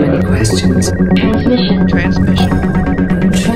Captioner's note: voiceover